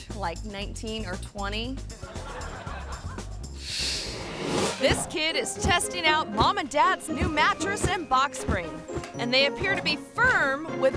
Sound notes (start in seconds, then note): 2.0 audience laughing; 3.6 air whooshes